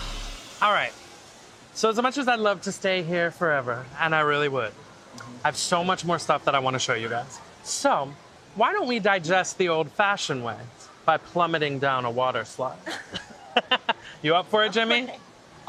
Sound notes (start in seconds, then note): 12.8 laughing